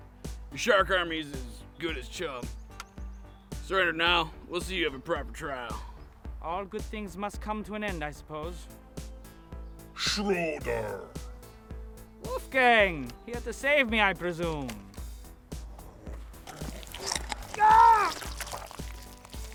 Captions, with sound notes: your shark army is as good as chum surrender now and we'll see you have a proper trial all good things must come to an end I suppose Schröder Wolfgang, here to save me I presume? [bite] [gasp of pain]